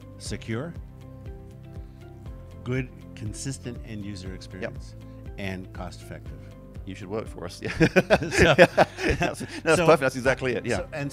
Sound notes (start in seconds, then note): 7.6 both laugh